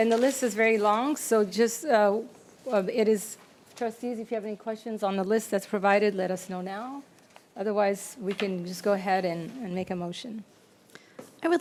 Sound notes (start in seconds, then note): none